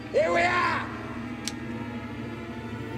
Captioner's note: musket cocking